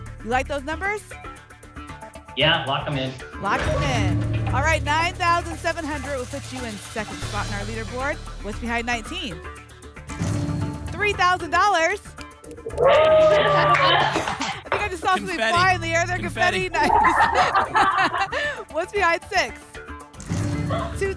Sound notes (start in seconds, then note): 12.7 applause and cheering; 16.4 laughter